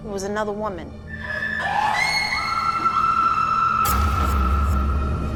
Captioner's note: screams